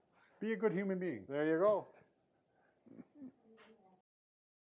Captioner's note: chuckles